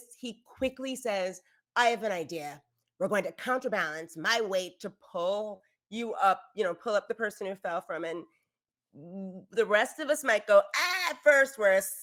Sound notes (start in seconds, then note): none